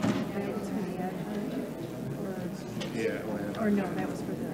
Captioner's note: board member faintly speaking